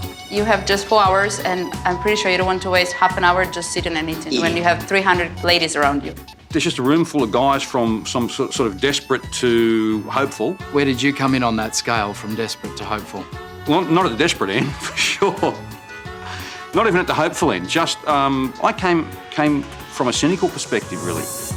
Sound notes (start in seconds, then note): 14.3 laughs